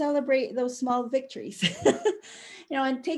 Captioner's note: chuckle